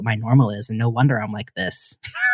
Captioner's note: laughter